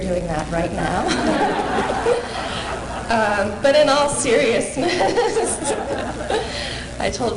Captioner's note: laughter